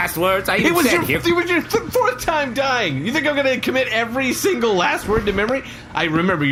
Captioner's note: exhausted